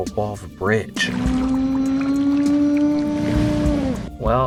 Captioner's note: sea monster sounds